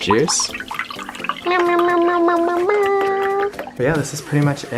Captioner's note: mimics cup filling